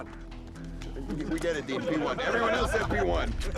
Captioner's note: laughter